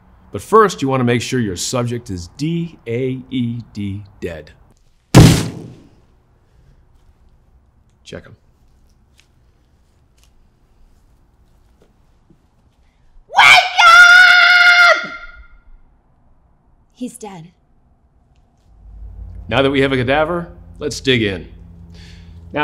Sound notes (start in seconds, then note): 13.0 shouting